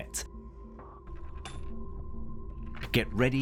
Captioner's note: coin clinks